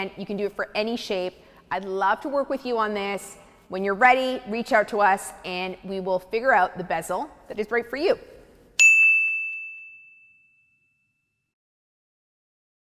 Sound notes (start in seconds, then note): 8.8 bell dinging